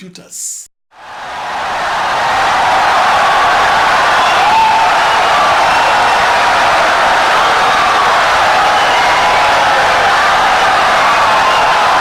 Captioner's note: wild applause and cheering for 17 seconds